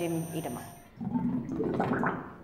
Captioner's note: bubbling